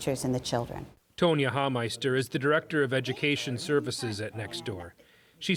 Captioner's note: voice-over